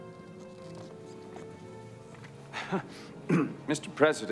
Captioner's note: footstep